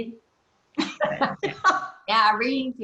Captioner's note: laughter